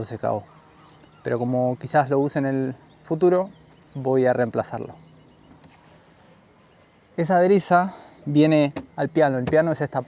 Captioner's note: in spanish